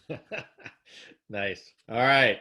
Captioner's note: laughing